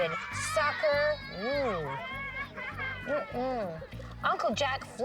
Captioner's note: kids laughing